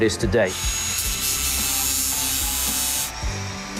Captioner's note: steel buzzing